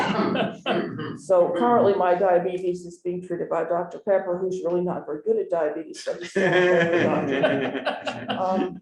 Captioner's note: laughter